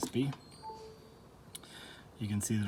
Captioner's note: iPad chime